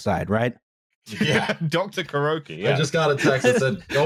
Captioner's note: laughter